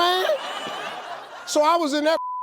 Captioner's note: audience laughs